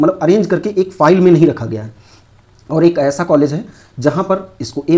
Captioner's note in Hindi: नाक से की जाने वाली आवाज़